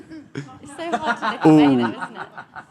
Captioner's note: laughing